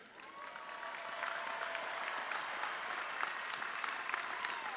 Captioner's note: audience cheering